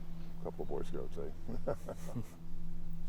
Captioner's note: laughing